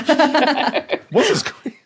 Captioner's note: Rosalie and Verity giggle